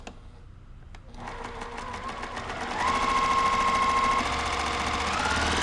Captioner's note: sewing machine roaring